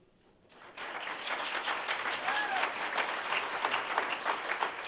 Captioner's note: audience applauding